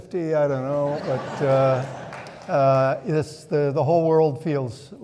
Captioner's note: audience laughing